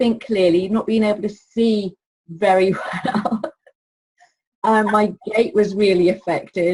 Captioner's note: laughs